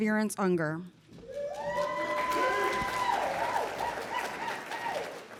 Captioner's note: applause